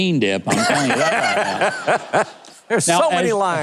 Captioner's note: laughs loudly